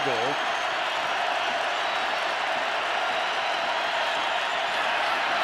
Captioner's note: crowd cheering